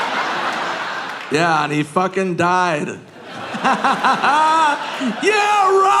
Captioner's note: audience laughing; laughing